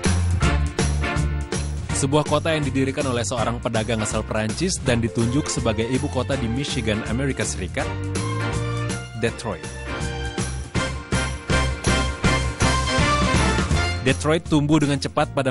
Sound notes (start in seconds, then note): 5.5 non-english speech